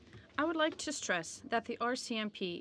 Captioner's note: speaking in french